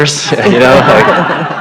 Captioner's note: laughter